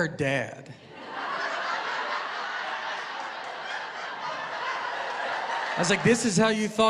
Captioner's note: laughter